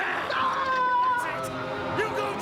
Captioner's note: screaming